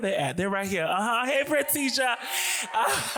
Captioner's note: laughs